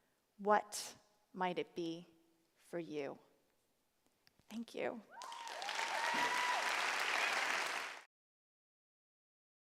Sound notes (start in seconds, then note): 5.1 cheers; 5.1 applause